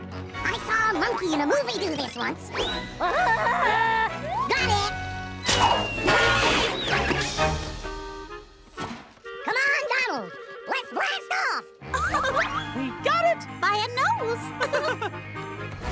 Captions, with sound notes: I saw a monkey in a movie do this once. [Tarzan-like yell] Got it! Come on, Donald! Let's blast off! -[laughs] -We got it... -...by a nose. -[laughs]